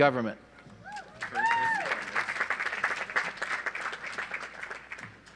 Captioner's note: audience applauds